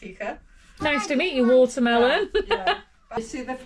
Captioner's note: laughter